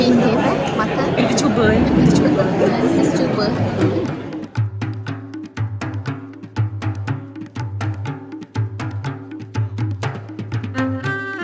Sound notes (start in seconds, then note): 0.0 laugh; 5.0 background music